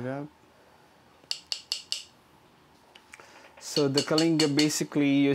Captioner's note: tapping